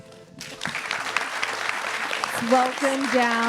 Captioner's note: audience applauding